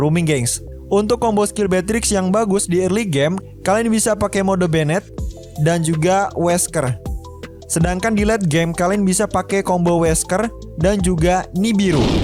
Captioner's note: grenades